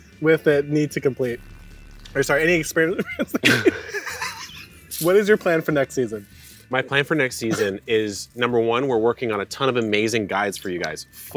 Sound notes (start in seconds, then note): 4.1 both laughs